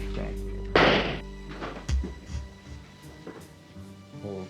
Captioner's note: gun fires